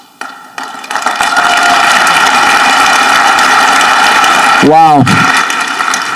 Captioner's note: audience clapping